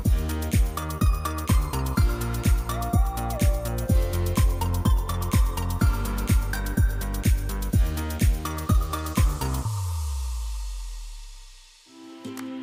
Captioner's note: applause